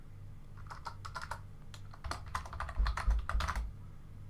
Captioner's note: keyboard typing